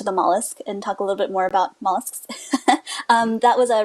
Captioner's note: laughs